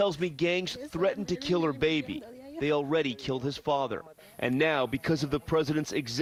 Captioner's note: speaking a foreign language